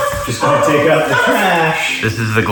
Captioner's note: dog barks